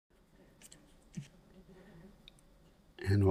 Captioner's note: silence